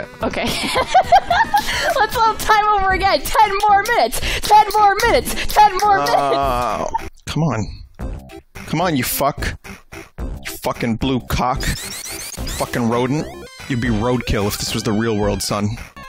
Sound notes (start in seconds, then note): 0.4 laughs; 3.8 chanting